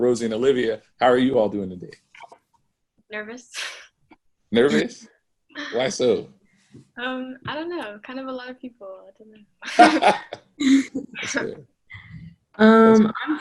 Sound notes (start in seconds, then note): 9.6 laughs